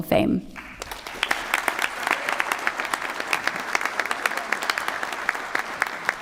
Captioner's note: applause